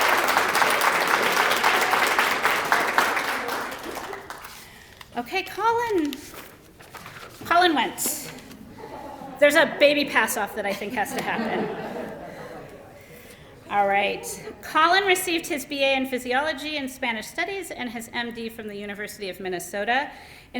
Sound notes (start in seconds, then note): 10.6 laughter